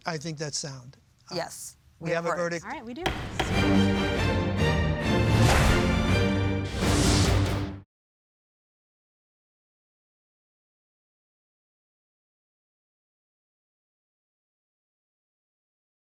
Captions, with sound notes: - I think that's sound. - Yes. - We have a verdict. Alright, we do. (gavel bangs) (energetic music)